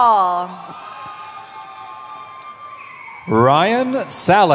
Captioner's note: cheering